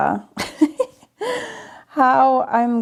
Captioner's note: chuckling